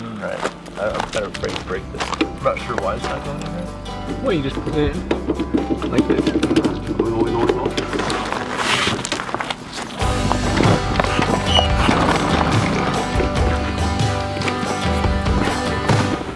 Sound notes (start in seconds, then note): 0.2 footsteps plodding; 2.4 upbeat music; 6.3 metal banging; 8.1 plastic scraping; 8.1 stones creaking; 10.2 upbeat music; 11.2 pump squeaking; 11.2 wheels rattling; 12.8 upbeat music